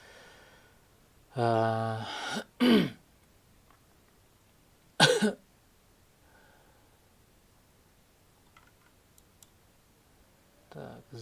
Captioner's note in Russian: откашливается